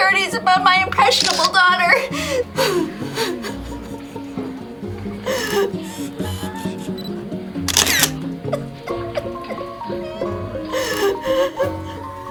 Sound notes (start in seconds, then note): 2.7 sobs; 6.0 camera beep; 7.7 camera clicks; 8.6 whimpering